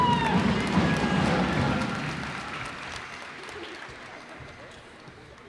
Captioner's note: cheers and applause